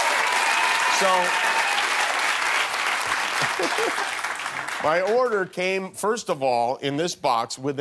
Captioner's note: cheers and applause